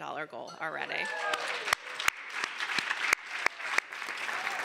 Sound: applause

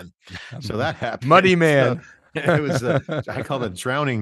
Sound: laughs

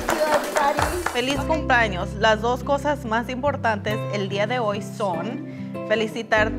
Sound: speaks in foreign language

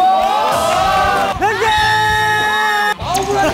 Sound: passionate lesson with cheers and applause

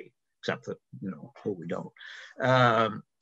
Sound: faintly speaking

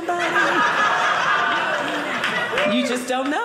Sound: audience laughing

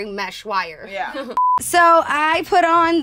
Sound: beep

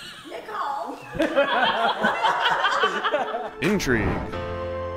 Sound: laughter

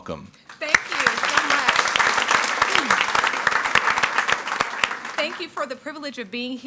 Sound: audience applauding

